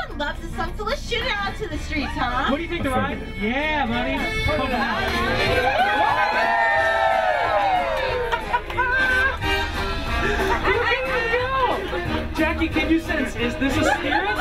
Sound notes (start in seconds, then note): 4.9 all cheer, laughter